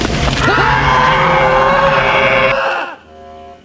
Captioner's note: screaming